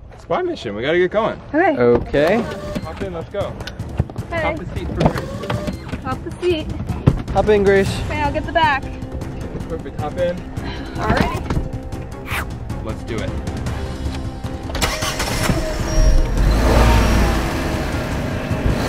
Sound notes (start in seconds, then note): 14.7 engine starts